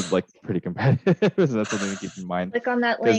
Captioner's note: laughs